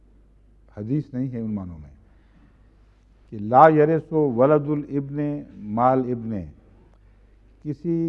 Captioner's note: Arabic